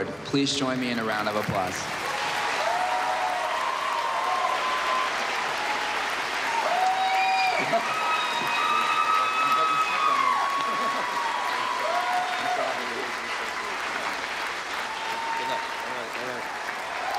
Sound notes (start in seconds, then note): 2.1 Aplausos, elogios; 7.6 Risos; 8.9 chatting indistinctly